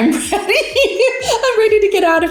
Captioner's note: laughs